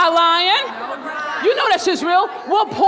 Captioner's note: crowd talks